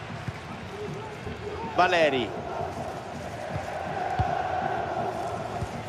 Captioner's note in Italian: Applauso